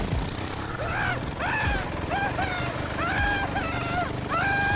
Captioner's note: character screaming